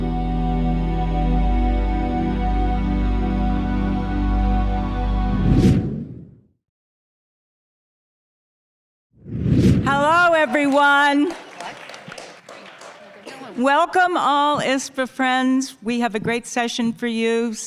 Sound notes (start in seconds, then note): 0.0 relaxing music; 5.8 screen swooshing; 10.0 audience applauding